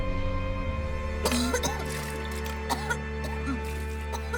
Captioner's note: May retching